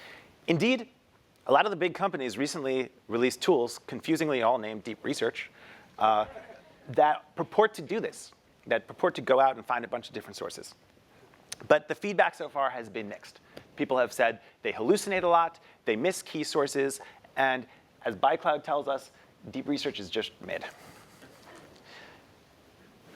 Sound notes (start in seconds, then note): 6.2 laugh